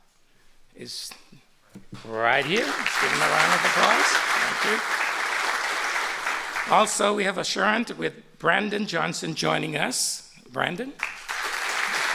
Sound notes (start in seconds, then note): 2.4 applause